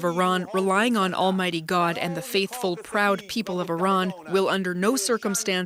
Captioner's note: speaking alternate language